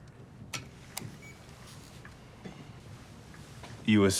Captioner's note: camera beeps